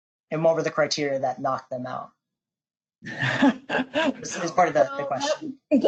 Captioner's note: laughs